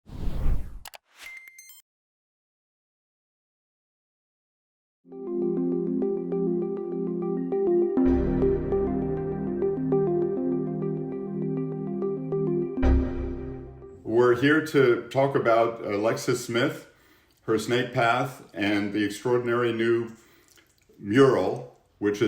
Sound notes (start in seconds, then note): 0.0 logo swooshing; 5.1 bright upbeat music